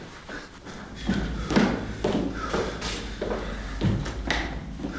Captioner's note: footsteps clicking